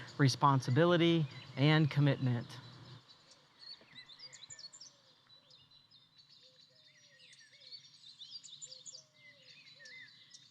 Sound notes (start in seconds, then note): 2.8 birds chirping